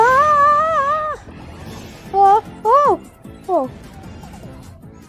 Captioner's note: Komasan struggles